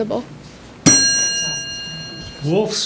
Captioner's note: ding